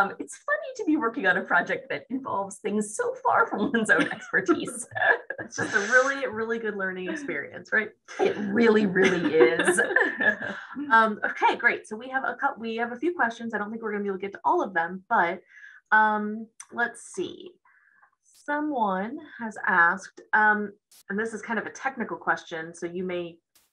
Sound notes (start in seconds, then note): 9.1 laughs